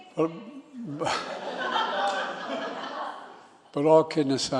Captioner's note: laughter